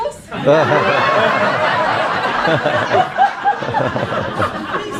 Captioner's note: laughing